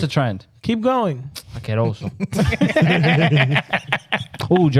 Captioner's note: speaking In Foreign Language; laughing